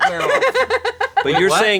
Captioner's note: laughing